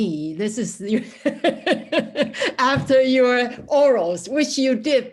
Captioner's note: laughs